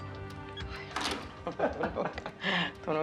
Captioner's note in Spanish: Risas